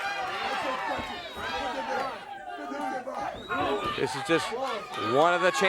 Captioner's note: crowd cheering